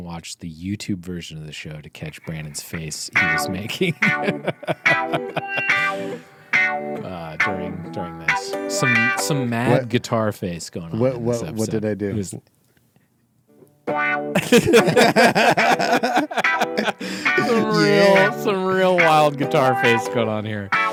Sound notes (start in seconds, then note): 5.2 laughing; 13.8 guitar music; 14.3 laughing